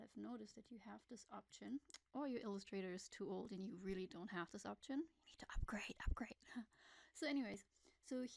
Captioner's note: whispers